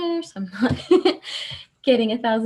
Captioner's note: laughs